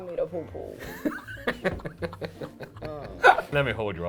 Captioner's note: laughing